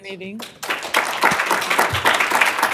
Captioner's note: applause